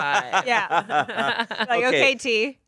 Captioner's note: everyone laughs